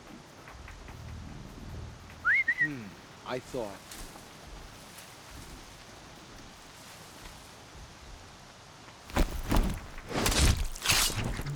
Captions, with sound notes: (whistle) Hmm... ...I thought...